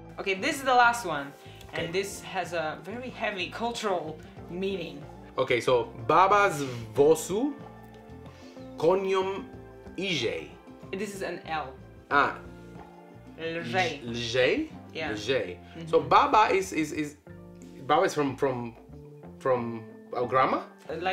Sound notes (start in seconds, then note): 6.6 speaks Polish